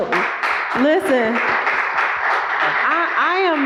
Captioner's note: applause